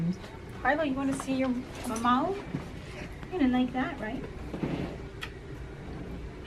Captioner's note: kiss